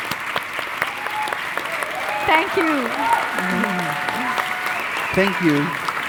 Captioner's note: audience cheering